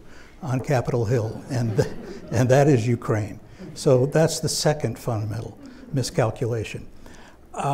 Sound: laughter

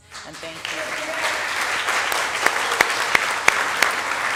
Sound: audience applauding

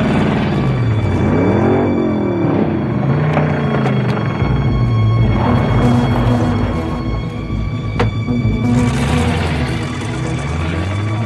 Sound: engine revving

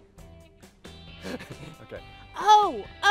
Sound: laughs

